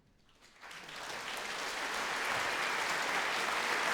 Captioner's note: applause